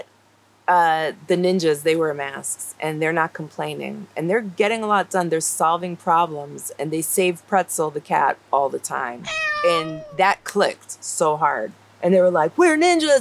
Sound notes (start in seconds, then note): 9.2 meowing